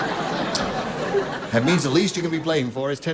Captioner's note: laughter